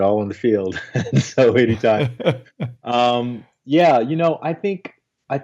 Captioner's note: laughs